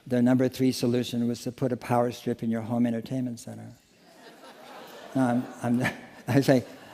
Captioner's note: laughter